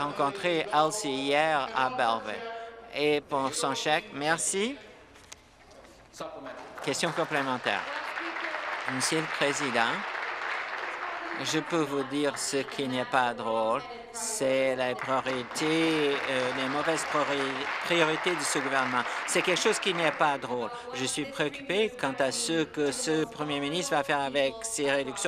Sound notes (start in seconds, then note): 10.3 applause; 18.5 applause